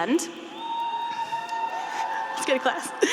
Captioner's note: students cheering